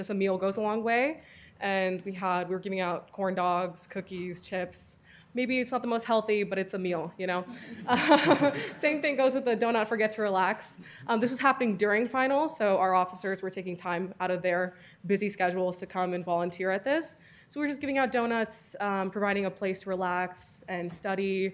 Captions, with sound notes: a meal goes a long way, and we had, we were giving out corn dogs, cookies, chips. Maybe it's not the most healthy, but it's a meal, you know (laughter). Same thing goes with the "Donut Forget To Relax," um, this was happening during finals, so our officers were taking time out of their busy schedules to come and volunteer at this. So we're just giving out donuts, um, providing a place to relax and study.